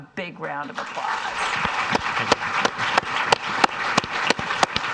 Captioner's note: audience applauds